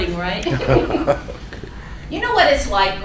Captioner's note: laughing